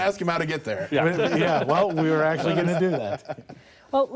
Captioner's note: laughter